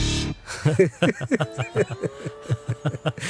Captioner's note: laughter